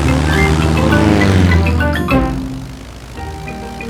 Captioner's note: plane engine revving